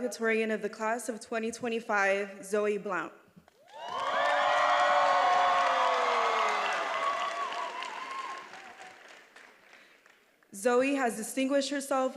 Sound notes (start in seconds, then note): 3.6 attendees applauding and cheering